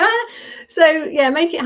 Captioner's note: laughing